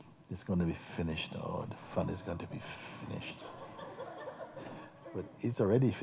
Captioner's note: laughter